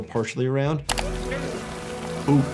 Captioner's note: rain pouring